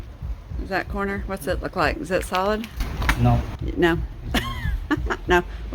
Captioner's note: laughter